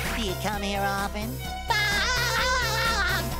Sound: laughs

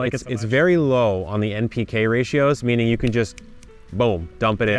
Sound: snapping

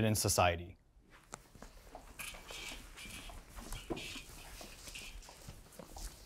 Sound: footsteps clicking on floor

